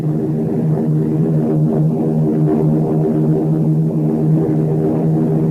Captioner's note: plane engines roaring continues